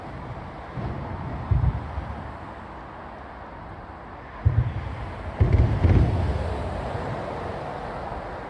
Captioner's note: overhead traffic noise